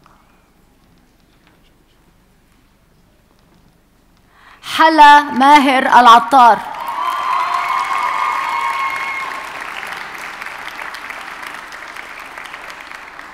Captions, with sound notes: Hala Mahir Alatar. (audience cheers and applauds)